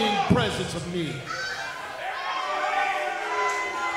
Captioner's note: crowd screaming